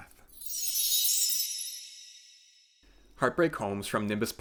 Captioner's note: chime sound